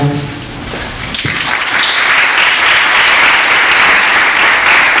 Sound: audience claps

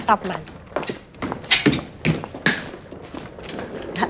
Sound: footsteps

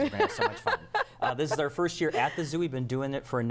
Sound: laughter

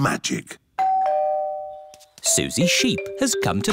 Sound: doorbell

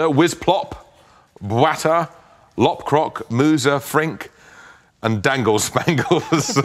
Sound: laughter

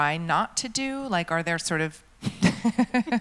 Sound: laughs

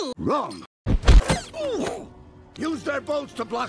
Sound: grunt of pain

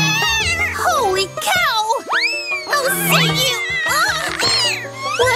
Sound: meows wildly

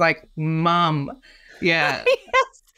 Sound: laughs

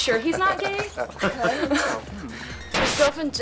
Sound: laughter

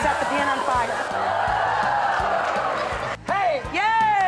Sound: crowd cheering

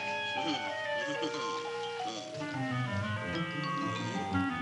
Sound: Audrey Junior grumbling

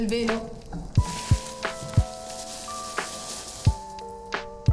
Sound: speaks Italian; tissue paper rustles

